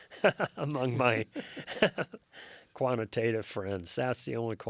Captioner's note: both chuckling